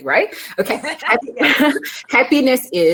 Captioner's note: laughing